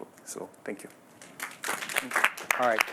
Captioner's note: applause